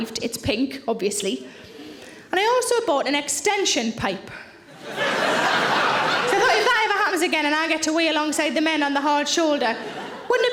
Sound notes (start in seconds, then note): 4.7 audience laughing